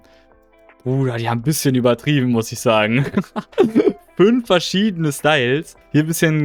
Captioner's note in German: gelächter